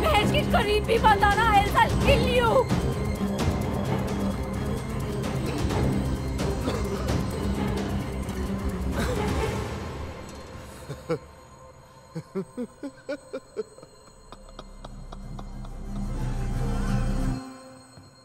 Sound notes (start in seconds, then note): 6.5 Coughs; 12.1 Laughing